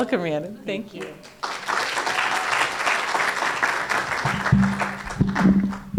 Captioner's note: applause